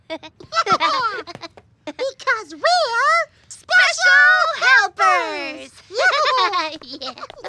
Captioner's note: laughs